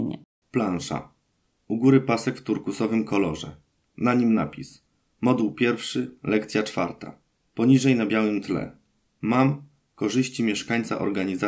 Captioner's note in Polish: Głos męski z offu, audiodeskrypcja planszy